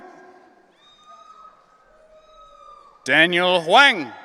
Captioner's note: audience cheering